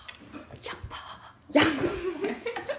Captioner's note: ha ha